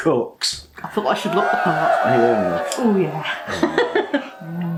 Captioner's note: cheerin